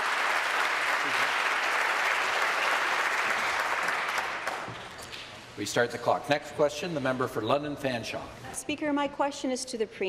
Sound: applause

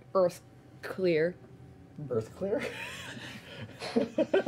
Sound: laughs

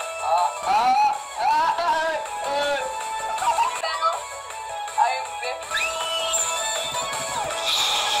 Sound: screams

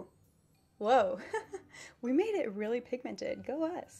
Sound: chuckles

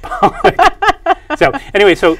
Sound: laughs

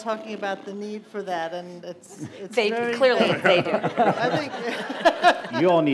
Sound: laughing

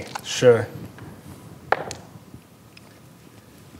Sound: dice rolling

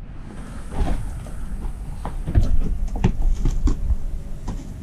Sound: muffled shuffling

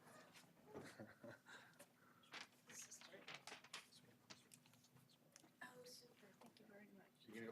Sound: laughter

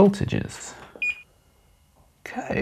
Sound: multimeter beeps

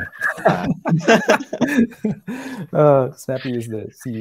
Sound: all laugh

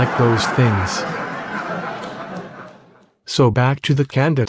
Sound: laughter

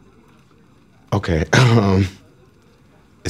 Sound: clears throat

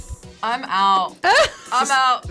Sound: laughing

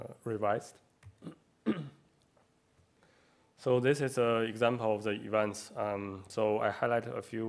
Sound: cough

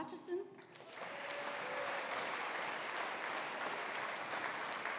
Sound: audience applauding

